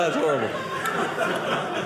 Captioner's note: audience laughing